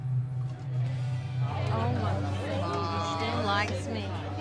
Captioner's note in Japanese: しゃべり声